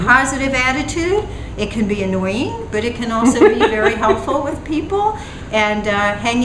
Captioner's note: laughter